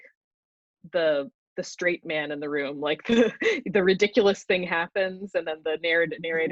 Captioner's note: chuckles